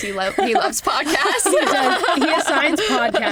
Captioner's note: laughter